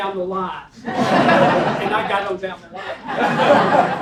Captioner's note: laugh